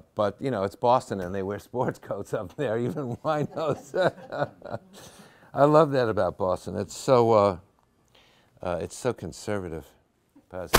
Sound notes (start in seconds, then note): 2.9 laughing